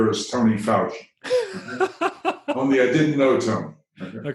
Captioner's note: chuckle